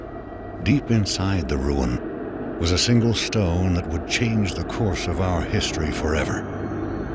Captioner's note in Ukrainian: спокійним, глубоким голосом